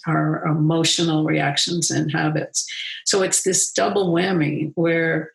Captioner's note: none